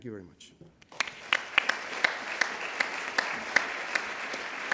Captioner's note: applause